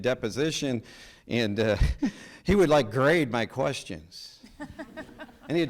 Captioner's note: chuckles; people laughing